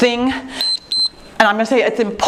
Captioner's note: timer beeps